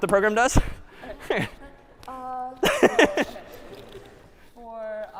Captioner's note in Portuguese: riso